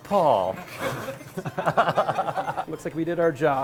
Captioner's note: laughter